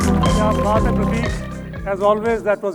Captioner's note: bright music; speaking in foreign language